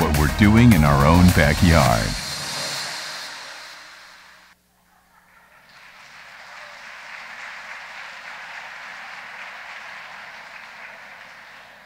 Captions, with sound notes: What we're doing in our own backyard. (audience applauding)